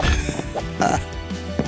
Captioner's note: laughs